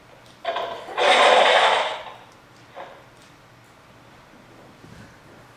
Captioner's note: sound of clattering items; sound of glass smashing